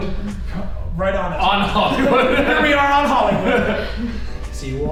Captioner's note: laughing